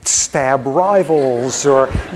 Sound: laughter

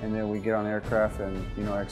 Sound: voiceover

